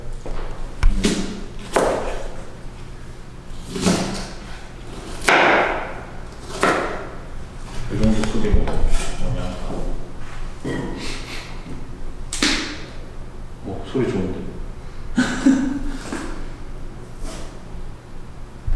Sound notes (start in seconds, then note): 4.8 cutting onions with cheerful sounds; 12.3 crack